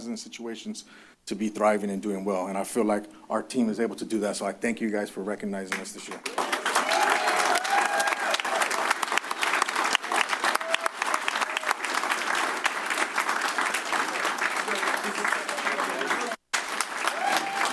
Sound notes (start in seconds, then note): 6.0 applause; 6.2 cheers